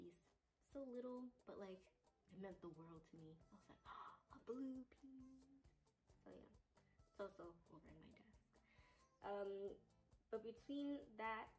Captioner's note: gasp